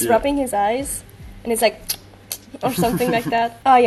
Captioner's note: mouthnoises